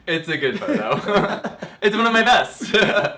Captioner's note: both laughing